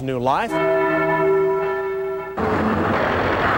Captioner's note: bells chime